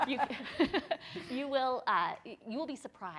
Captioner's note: laughs